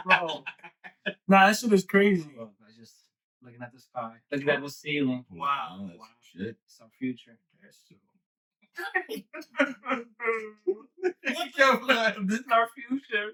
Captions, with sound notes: Nah, this shit is crazy. I just, looking at the sky. Like that. Like that. That was ceiling. Wow. Oh, that's shit. It's our future. (Laughing) What the fuck? This is our future.